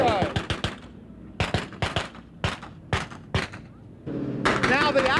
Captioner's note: bam-bam-bam